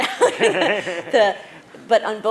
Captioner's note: laughter